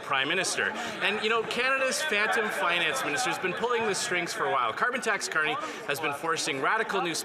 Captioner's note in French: voix de l'interprète